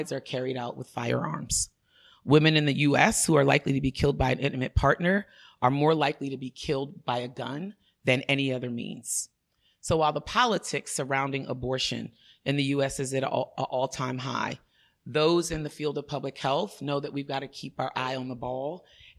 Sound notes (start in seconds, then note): none